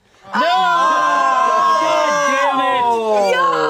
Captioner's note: yelling